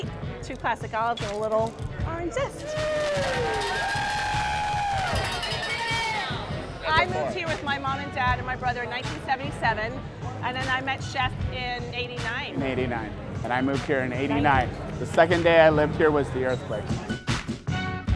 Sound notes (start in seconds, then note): 2.6 cheering